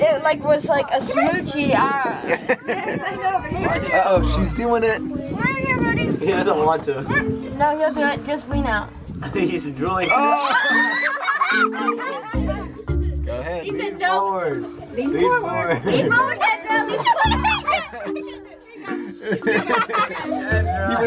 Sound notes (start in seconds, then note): 2.2 laughter; 10.0 children exclaiming; 10.4 laughter; 19.0 laughter